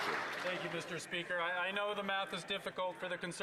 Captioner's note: some Applause